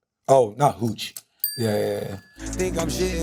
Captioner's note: whispering; bell dings